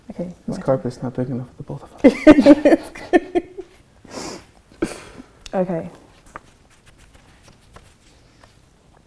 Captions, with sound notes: Okay, I'm gonna take this. - This carpet's not big enough for the both of us. - (laughs) Okay.